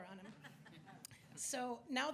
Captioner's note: audience laughs